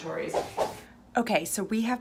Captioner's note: swooshing